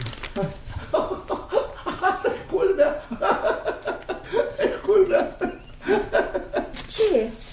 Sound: laughs

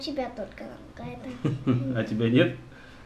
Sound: giggles

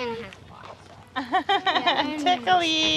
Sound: laughs

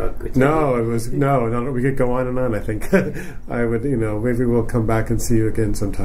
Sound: chuckles

